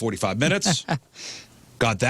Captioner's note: laughing